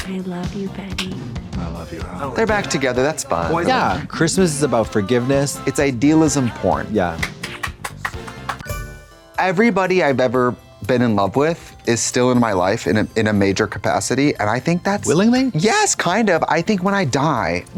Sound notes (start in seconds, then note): 7.2 Trixie applauds; 8.6 bright chime